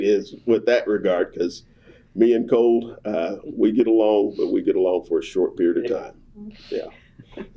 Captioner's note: laughter